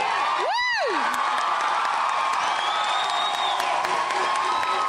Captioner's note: crowd cheers